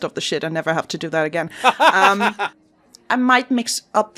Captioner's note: laughs